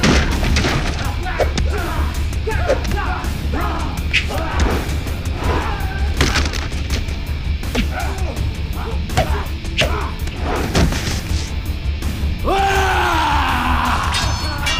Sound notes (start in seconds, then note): 0.0 clattering; 4.0 whooshing; 7.8 thudding; 12.5 yelling